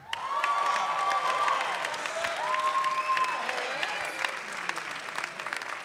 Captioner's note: audience clapping and cheering